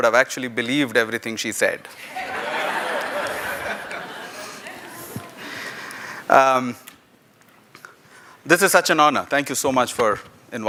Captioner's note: laughter